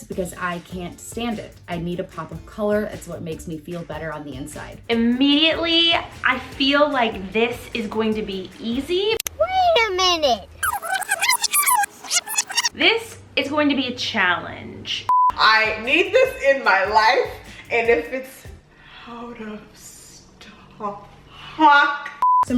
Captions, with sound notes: because I can't stand it. I need a pop of color. It's what makes me feel better on the inside. - Immediately, I feel like this is going to be easy. - [Voiceover] Wait a minute. (rewind sound) - This is going to be a challenge. (beep) - I need this in my life, and if it's... Hold on, stop. (beep)